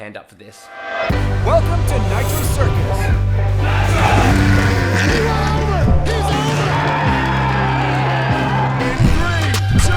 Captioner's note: applause